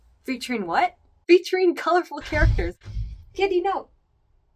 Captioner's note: bang